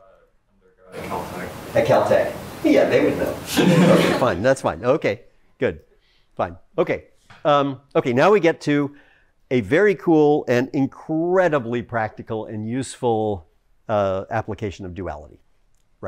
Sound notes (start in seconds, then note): 3.5 laughter